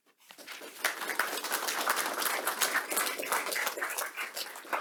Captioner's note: audience clapping